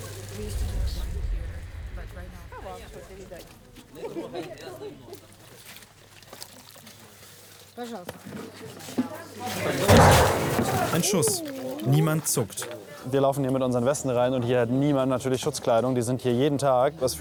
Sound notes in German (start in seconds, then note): 0.5 Leises Stimmengewirr; 9.8 Schussgeräusch